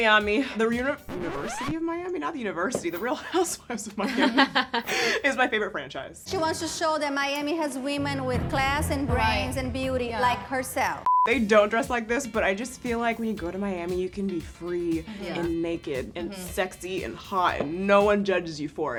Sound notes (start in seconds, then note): 4.2 laughs; 11.0 screen beeps